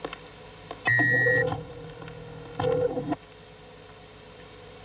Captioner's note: porta emite um sinal sonoro